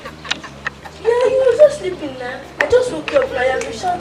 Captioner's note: shouts